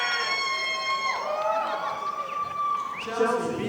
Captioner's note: audience applauding